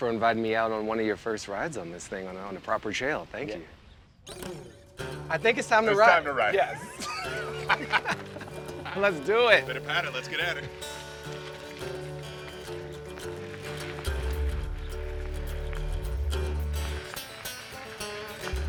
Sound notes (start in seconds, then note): 5.8 all laughing; 10.4 lively music